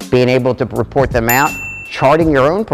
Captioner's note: bell ding